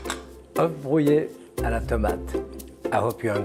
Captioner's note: Jacques speaking in French